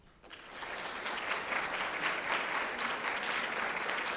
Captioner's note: audience applauds